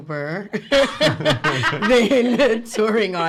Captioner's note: laughing